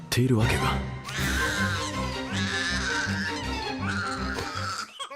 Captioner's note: crying